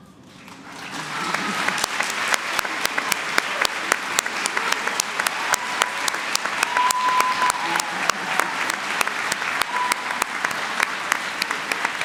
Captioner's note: applause